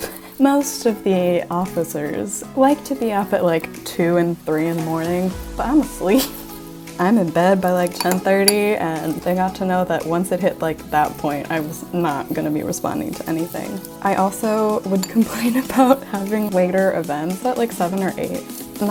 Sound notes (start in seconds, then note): none